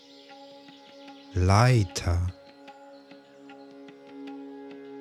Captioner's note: german